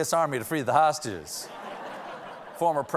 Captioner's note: laughter